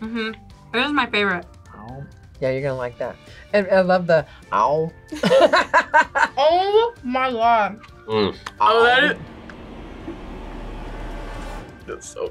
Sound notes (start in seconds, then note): 5.1 both laugh; 8.4 tense music